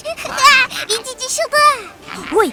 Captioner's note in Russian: смеется